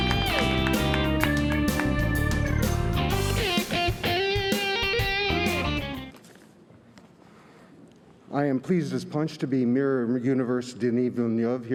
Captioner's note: cheers and applause